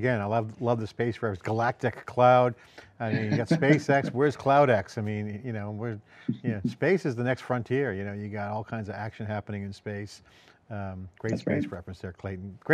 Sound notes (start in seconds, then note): 3.1 chuckles